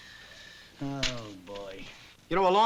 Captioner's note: sighs